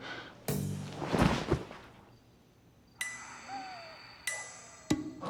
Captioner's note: Terry thudding to the ground; tense music